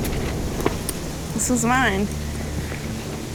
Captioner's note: dramatic music; sniffles